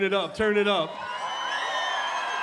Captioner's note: cheering and applause